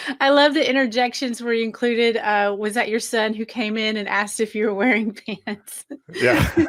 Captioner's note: laughing